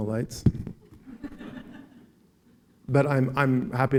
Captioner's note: laughing